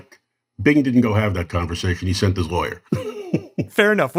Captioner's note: laughs